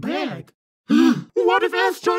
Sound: gasps

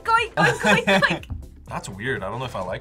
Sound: both laugh

